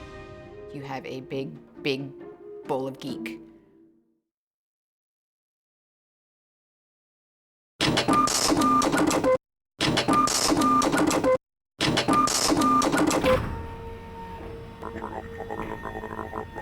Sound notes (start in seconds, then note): 8.2 machine clattering